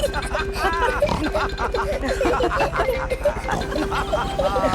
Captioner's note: all laughing and snorting